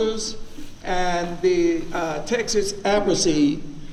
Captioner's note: speaks faintly